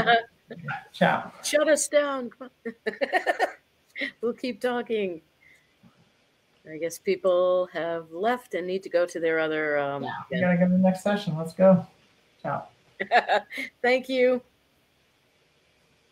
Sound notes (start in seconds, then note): 0.5 laughing; 2.6 chuckles; 13.0 chuckles